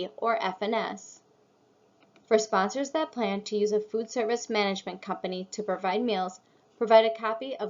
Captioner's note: click